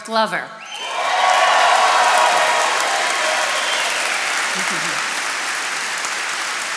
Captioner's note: attendees cheering and applauding